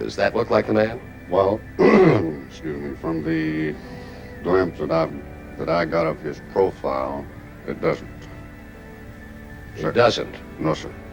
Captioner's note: ahem